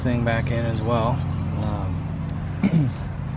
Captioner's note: birds sing